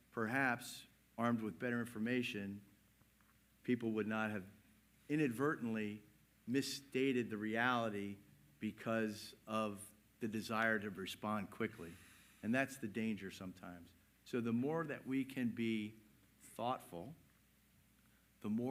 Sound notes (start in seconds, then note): none